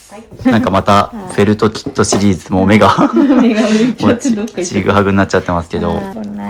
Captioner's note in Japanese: 笑い